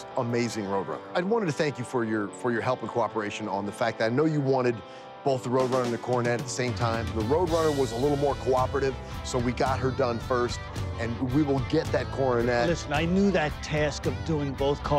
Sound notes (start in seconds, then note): none